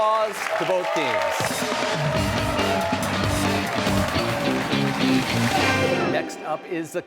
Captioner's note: cheers and applause